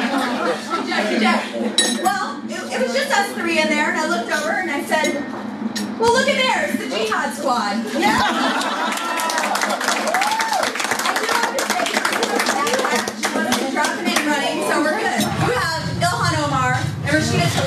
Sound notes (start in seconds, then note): 12.3 applause